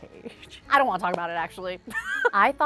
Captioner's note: laughs